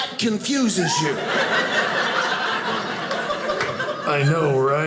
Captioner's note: audience laughing